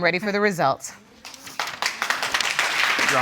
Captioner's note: audience applauds